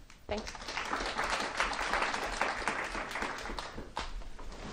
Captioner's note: applause